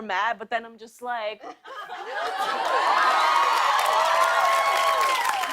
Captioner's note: cheers and applause